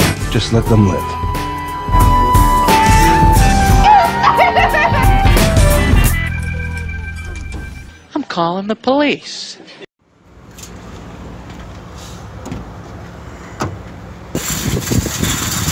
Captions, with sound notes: - Just let them live. (sobbing) - I'm callin' the police.